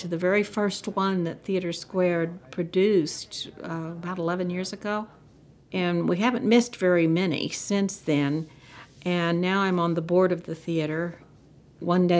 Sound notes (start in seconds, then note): none